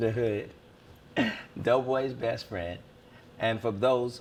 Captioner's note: laughs